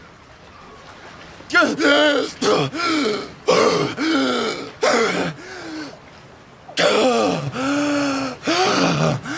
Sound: wakes up gasping

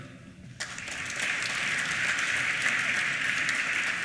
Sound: applause

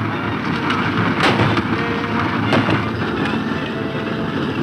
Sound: gunshots

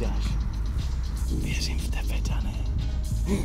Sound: whispers

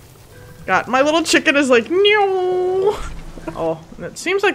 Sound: mimics plane noise

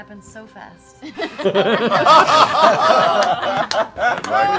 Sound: laughing

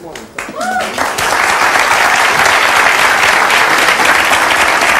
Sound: audience claps

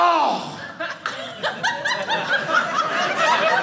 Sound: audience laughing

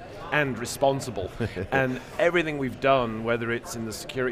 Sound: chuckles

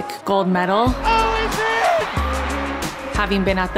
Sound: crowd cheering

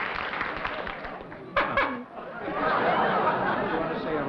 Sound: honking

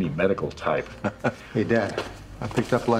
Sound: man chuckles

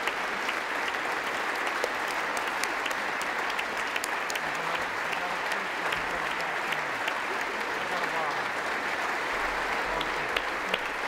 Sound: applause

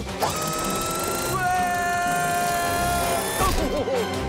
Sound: screaming

